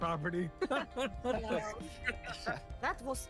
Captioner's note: laughs